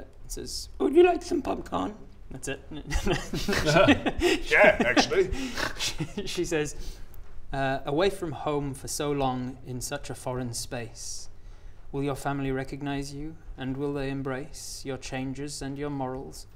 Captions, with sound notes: says would you like some popcorn? and that's it *troll giggles* Yeah actually she...she says Away from home for so long in such a foreign space will your family recognise you and will they embrace your changes and your morals?